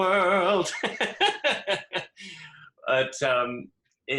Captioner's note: laughs